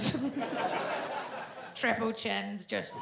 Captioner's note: audience laughs